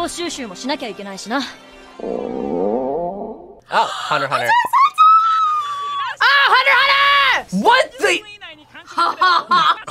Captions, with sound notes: - (Gon's stomach groans) - Oh! Hunter x Hunter. - (gasps) Hunter x Hunter! - Ah! Hunter x Hunter! - What the?! - (laughs)